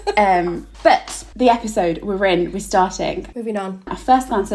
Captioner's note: laughing